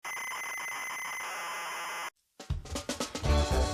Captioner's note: old ZX Spectrum loading sounds